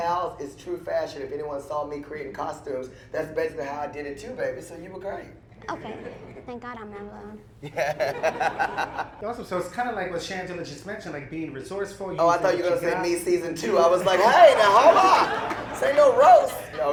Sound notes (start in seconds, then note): 7.6 laughter